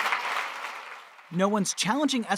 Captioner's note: applause